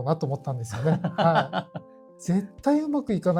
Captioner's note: laughs